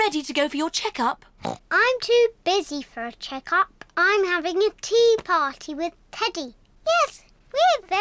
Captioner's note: oinks